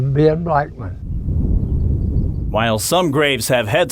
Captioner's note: wind blowing; birds chirping